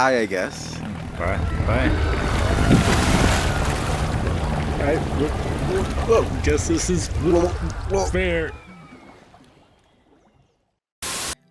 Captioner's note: glup glup